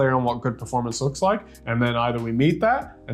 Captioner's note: none